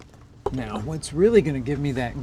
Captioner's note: axe chopping wood sound